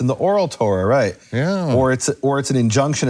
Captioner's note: speaks in foreign language